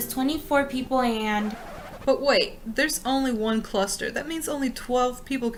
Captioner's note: record scratch